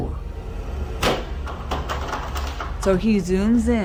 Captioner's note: bang; door knob shaking